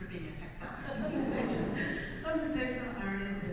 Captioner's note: audience laughs